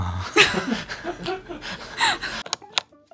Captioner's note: laughs